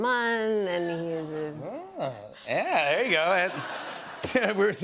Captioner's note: audience murmurs